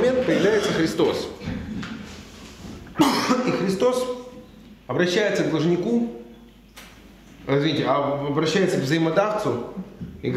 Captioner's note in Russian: кашляет